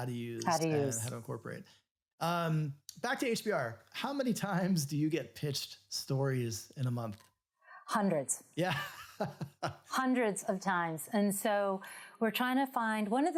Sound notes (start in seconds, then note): 9.3 laughs